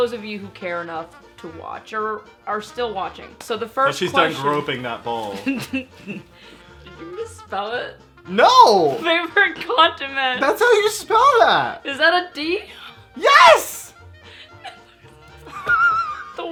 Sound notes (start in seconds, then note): 5.4 laughs; 13.7 laughing